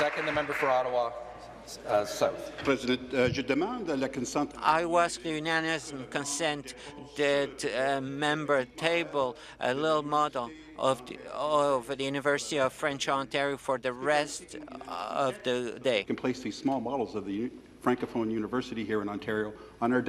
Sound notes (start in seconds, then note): 0.0 applause; 6.3 speaking in French